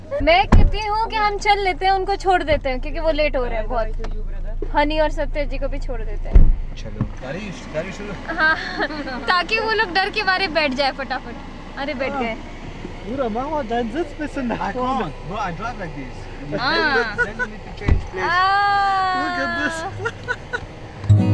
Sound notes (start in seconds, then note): 8.7 scoffs; 20.6 laughs